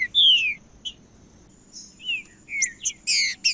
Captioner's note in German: trinca ferro cantando